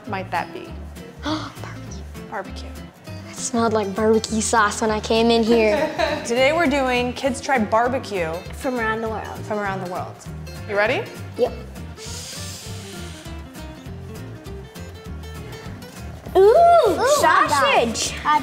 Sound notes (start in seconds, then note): 1.2 gasping; 5.6 chuckling; 12.0 air whooshing